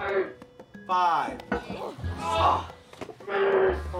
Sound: grunting Continues; grunting

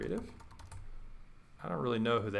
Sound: typing

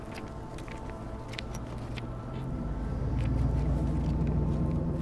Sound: paper crinkling

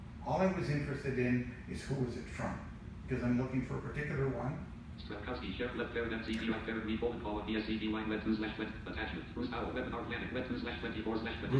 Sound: JAWS speaks

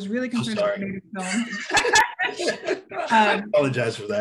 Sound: all laugh

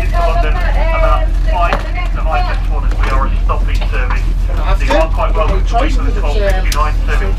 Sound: announcement in background

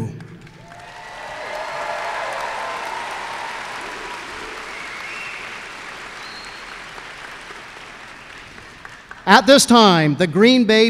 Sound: applause and cheers

